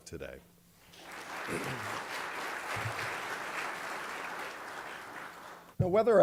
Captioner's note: applause